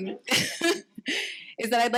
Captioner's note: chuckles